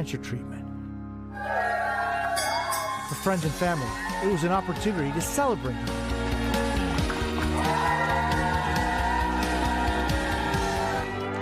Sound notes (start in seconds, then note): 2.5 cheers; 9.4 cheers and applause